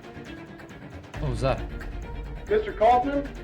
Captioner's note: knock on door